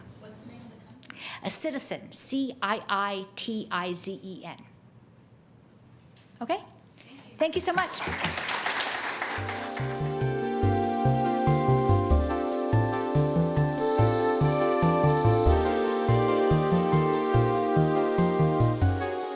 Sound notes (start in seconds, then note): 7.6 audience applauding; 9.6 relaxing music